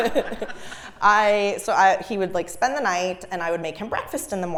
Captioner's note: laugh